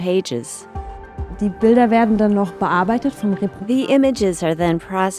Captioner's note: non-english speech